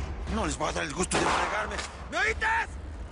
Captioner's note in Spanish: Disparos